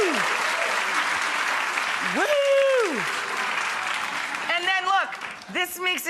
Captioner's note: audience applauds